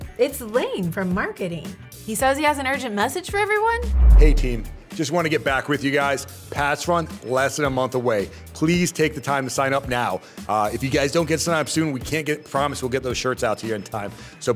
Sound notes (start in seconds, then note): 3.7 air whooshing